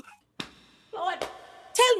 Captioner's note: banging